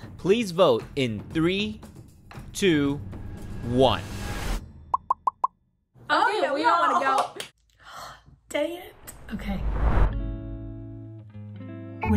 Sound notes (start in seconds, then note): 4.6 bubbles popping; 10.0 gentle music